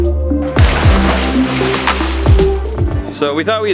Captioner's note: water splashing